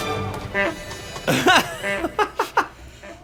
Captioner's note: honk, honk, honk